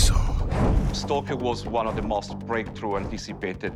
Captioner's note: speaking English